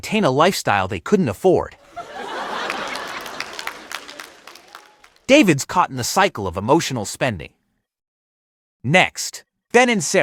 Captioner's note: audience laughing